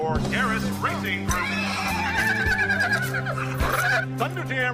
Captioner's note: neighing strongly